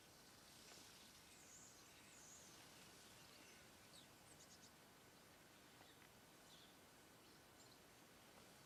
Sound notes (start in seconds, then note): 4.5 leaves rustling